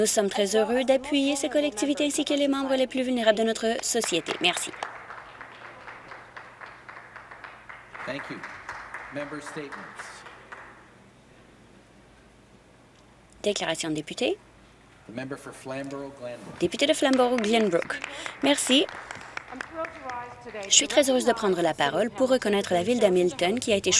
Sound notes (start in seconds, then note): 11.0 applause